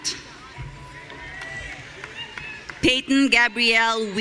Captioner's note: audience cheering